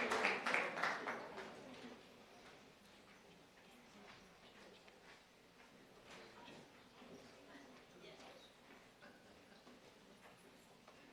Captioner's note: applause